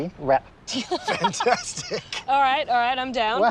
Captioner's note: both laugh